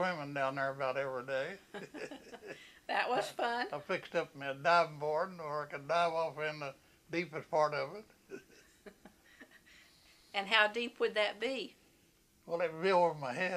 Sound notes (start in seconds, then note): 1.6 laughter; 8.3 laughs